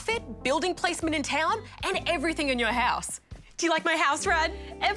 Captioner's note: none